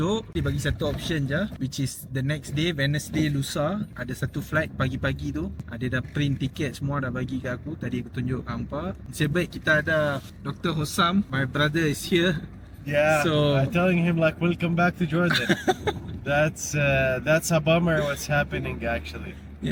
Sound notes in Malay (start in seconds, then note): 15.3 ketawa